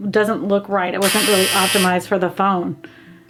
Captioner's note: buzzer blares